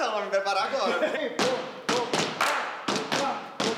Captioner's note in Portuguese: cantarolando e batendo palmas